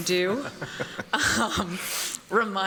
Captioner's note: laughter